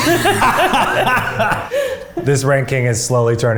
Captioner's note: all laughing